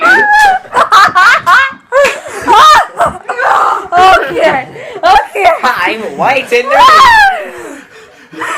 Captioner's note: heavy laughter